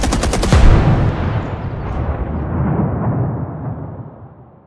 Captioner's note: gunshots firing; helicopter explodes